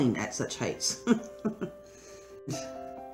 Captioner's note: nervous giggle